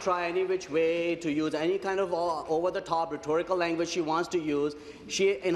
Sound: applause

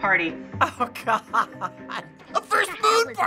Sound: laughing

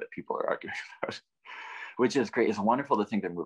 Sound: chuckles

